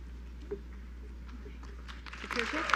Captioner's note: applause